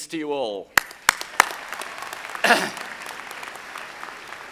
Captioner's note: audience applauding